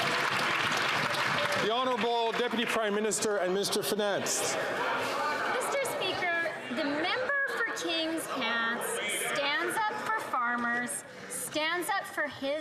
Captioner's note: some Applause